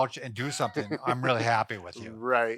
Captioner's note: laughing